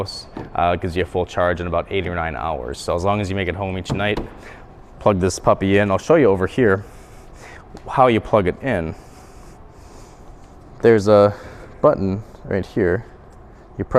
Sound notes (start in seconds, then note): 4.4 hand taps